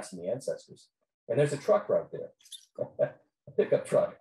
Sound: laughs

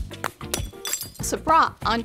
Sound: glass breaking

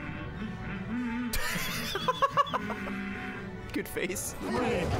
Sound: laughs

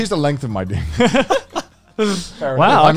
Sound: laugh

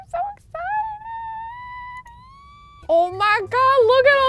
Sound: squeals

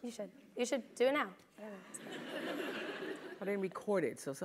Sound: laugh

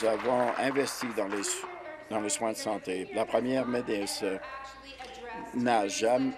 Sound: applause

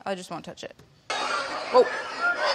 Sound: hogs squeal

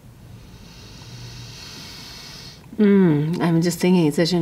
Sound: breathes deeply

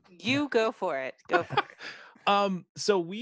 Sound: laughs

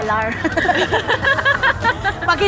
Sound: laughs

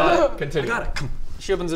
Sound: thunk

